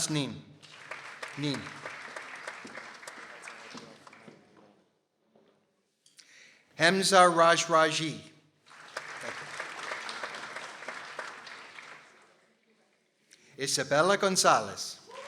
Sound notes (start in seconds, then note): 0.5 people applauding; 8.6 people applauding